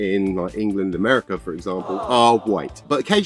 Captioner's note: awww sound effect